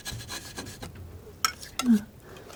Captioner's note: tapping; tapping